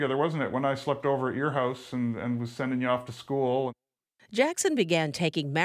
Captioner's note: none